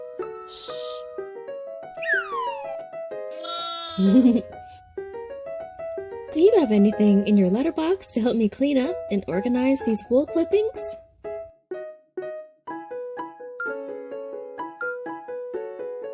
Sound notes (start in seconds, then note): 2.0 air whistling; 3.3 Malachi baa-ing; 3.8 Koha giggling; 12.3 bright piano music; 14.3 timer beeping